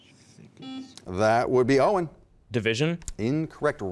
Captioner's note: beep